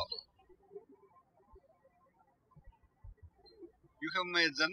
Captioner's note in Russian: птички щебечут